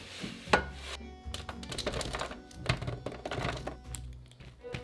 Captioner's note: vegetables dropping